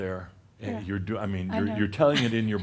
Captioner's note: she chuckles